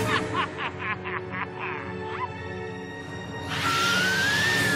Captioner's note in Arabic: ضحك; صراخ